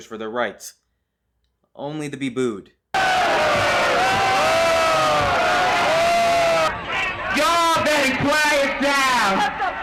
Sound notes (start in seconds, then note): 2.9 booing and jeering